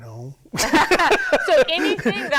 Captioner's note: both laughing